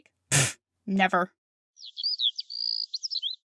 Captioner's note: amid chirping birds